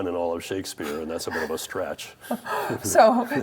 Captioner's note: all laugh